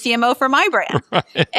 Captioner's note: laugh